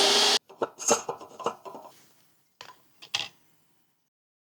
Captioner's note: drill whirring